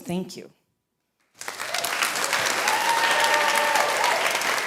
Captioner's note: audience cheering